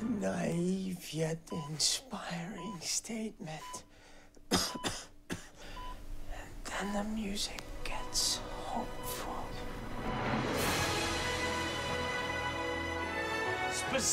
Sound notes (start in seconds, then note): 4.4 coughing; 9.5 hopeful music